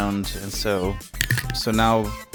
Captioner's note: crunch